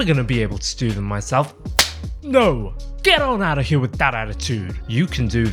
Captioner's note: slap!